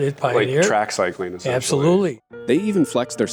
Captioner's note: pat